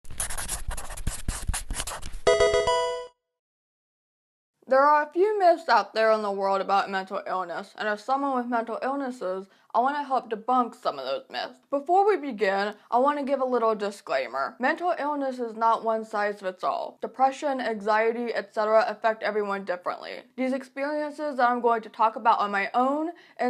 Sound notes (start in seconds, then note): 0.0 pencil writing; 2.2 Pokemon game sound